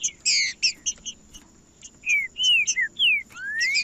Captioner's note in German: trinca ferro cantando